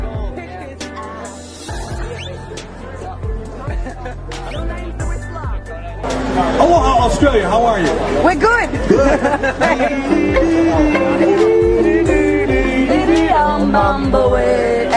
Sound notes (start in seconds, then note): 1.1 background music; 3.6 laughter; 8.8 laughter; 10.0 playing ukulele